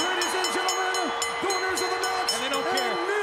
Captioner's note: bell ringing